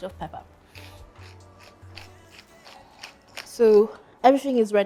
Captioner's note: grinder grinding